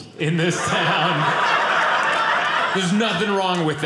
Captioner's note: audience laughing